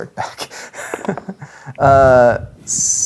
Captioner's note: chuckles; dice rolling